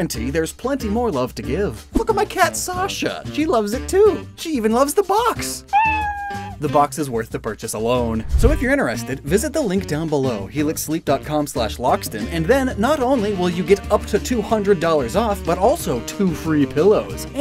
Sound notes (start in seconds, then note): 5.7 kitty meow SFX